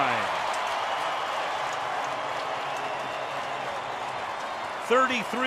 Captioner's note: cheering